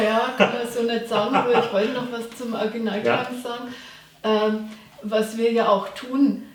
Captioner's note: laughs